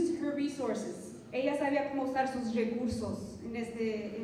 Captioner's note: non-english speech